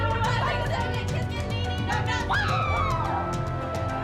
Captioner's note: whooping